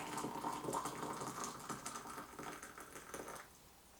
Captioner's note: water pouring